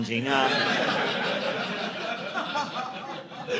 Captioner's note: audience laughing